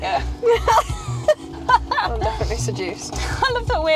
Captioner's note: laughing